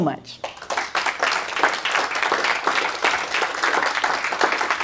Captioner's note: applause